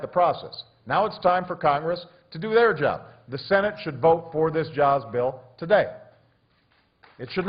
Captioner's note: applause